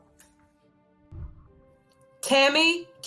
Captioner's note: whooshing